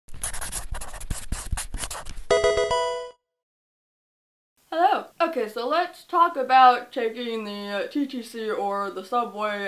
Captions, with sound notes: (pen scratching) (Pokemon game sound) Hello. Okay, so let's talk about taking the TTC or the subway